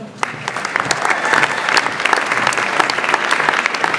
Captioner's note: audience applauds